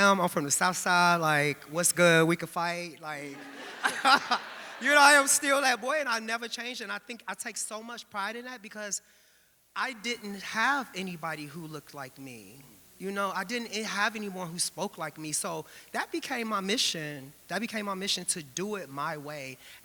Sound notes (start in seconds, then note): 3.2 audience laughing